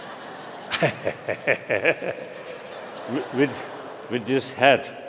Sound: laughter

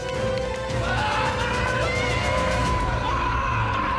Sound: screaming

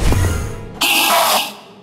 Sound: enderman screeching

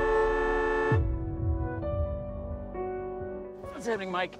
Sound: car horn

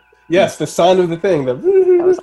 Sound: humming

